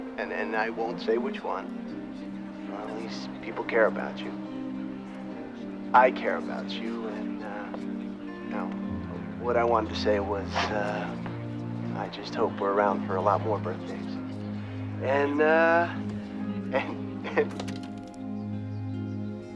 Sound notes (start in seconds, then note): 17.0 tv turns off